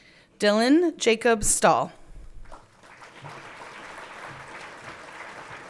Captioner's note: everyone clapping